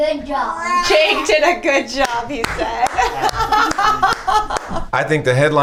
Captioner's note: laughs